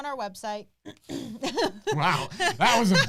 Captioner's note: laughs